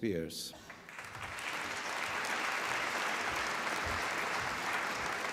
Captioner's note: applause